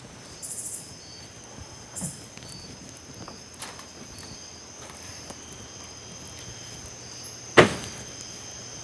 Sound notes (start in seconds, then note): 0.0 crickets chirping